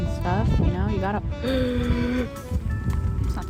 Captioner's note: gasps at dropped piece of lettuce